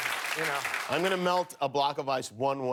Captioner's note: applause